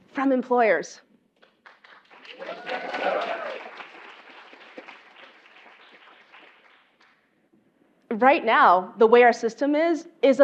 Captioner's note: applause